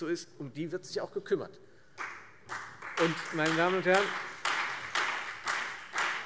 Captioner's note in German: Beifall Freie Demokraten und vereinzelt CDU